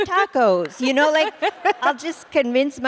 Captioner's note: laughter